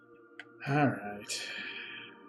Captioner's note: sighs